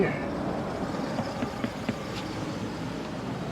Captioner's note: knocks on door